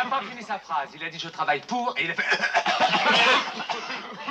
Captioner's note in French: tousse tousse tousse